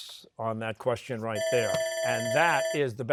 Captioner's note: bell ringing